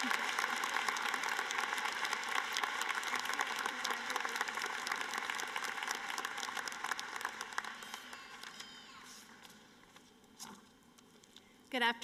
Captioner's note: cheering and applause